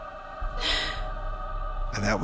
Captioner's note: sobs